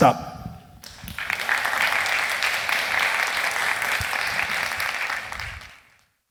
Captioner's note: applause